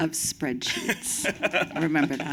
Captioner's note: laughter